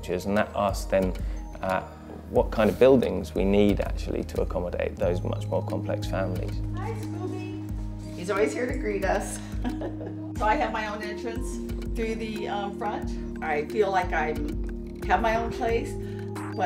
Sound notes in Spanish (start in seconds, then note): 9.4 risas